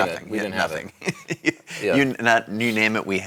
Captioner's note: laughs